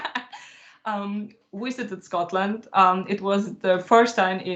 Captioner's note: mouth noises; laughs